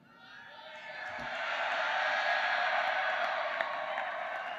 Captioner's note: applause